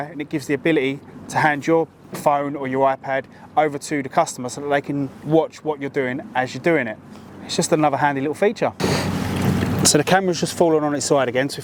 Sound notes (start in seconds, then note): 8.9 water gurgling